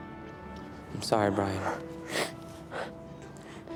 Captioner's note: brian sobs